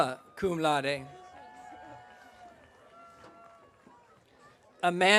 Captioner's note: audience cheering